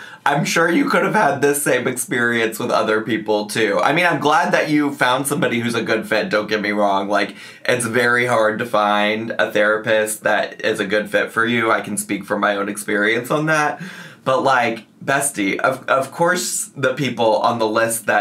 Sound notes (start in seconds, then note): none